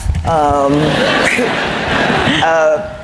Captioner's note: laughter